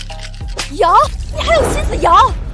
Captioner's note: shaking something